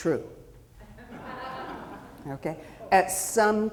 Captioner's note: audience chuckling